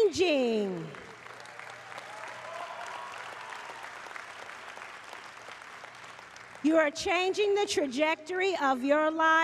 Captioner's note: applause